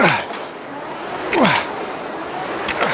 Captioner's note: grunting